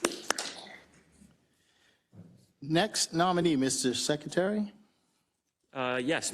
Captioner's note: applause